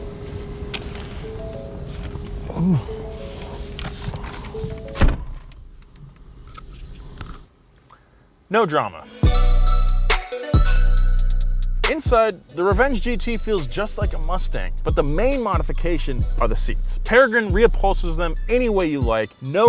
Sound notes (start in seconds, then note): 0.1 car door chime; 5.0 car door slams; 9.8 techno music